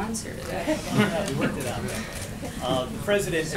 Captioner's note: laughter